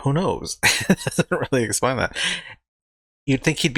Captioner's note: chuckling